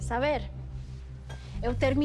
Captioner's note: speaking In Foreign Language